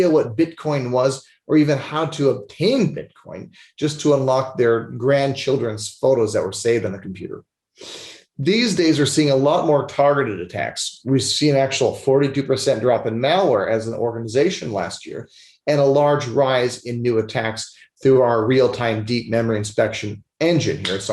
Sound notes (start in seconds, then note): 7.8 sniffles